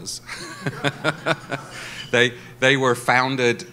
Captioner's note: laughs